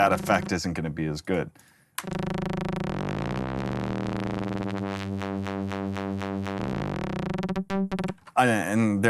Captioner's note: warbling digital tone